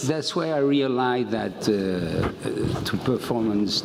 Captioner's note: none